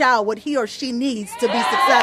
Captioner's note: applause